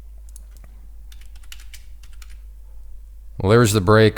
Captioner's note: keys typing